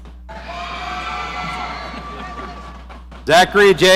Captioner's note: audience cheering